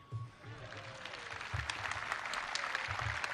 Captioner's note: applause